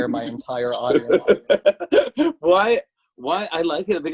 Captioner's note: laughs